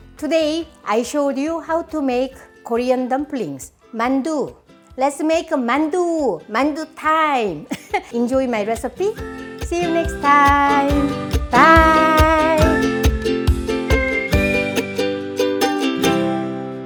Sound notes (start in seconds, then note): 7.6 chuckling; 12.3 bright music